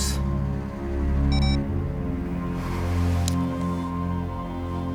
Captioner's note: camera beeps